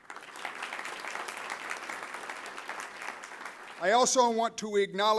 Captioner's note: applause